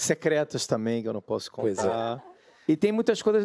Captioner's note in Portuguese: risos